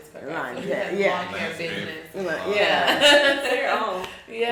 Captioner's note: chuckles